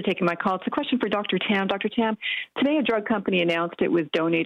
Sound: speaking french

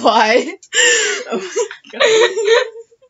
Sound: big inhale

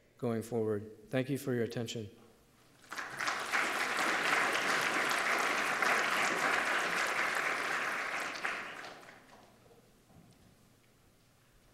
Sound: applause

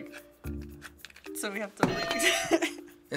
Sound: hitting bell

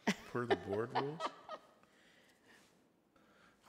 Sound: laughing

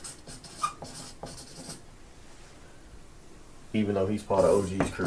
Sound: marker squeaking

